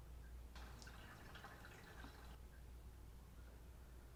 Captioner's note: water dripping